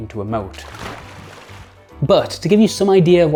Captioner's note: water splashing